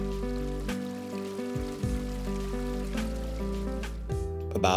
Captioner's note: soft music; running water